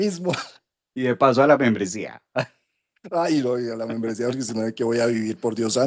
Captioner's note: laughs